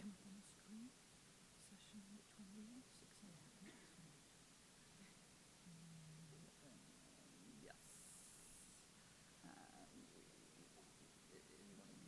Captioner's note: whispering